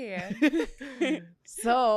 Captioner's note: laughs